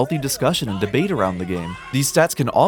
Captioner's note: yelling; screaming